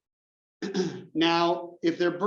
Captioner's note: cough